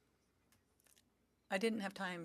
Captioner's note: speaking French